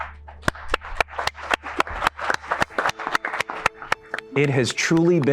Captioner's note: applause